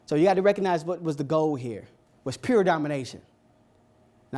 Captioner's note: none